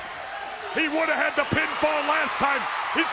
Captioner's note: crowd cheering